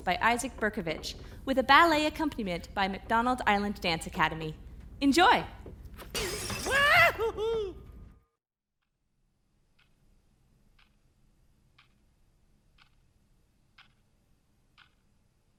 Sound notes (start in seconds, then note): 6.0 glass shattering; 6.8 laughing; 10.4 clock ticking